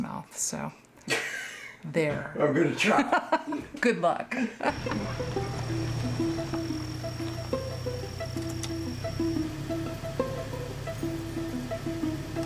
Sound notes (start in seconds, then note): 2.8 Director laughs; 4.5 laughs; 4.7 curious music